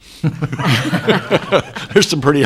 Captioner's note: council laughs